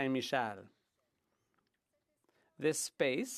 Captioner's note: speaking French